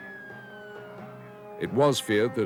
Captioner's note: police sirens blaring